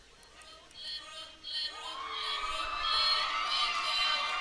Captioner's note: audience claps